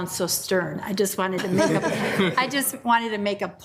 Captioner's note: participants laugh